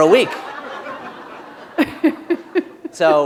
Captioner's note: laughter